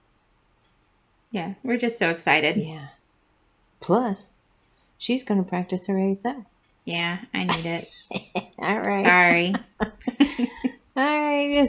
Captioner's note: laugh